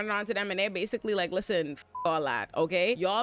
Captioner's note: beep